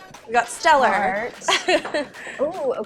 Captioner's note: laughs